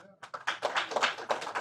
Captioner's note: applause